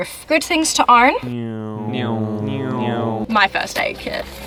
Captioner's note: meme car noises